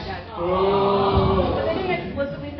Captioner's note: booing